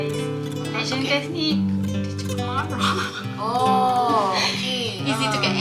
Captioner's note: laugh